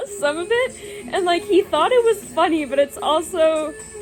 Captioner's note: laughs